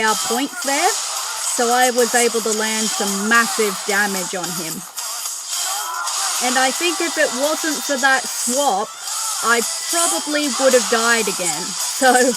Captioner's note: laughter